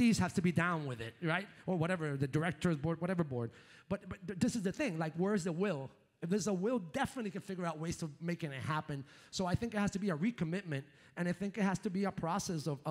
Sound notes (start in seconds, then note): none